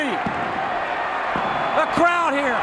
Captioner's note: audience cheering